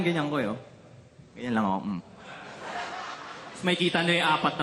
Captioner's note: laughter